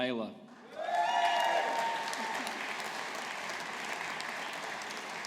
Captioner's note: audience applauding